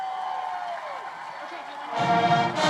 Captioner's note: crowd cheering; instrumental music